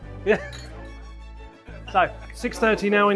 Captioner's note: laughs